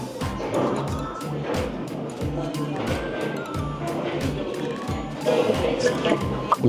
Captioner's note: gulp